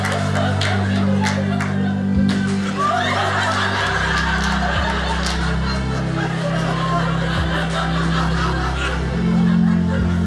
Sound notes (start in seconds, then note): 2.8 audience laughing